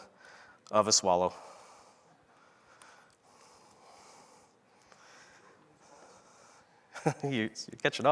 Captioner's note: laughter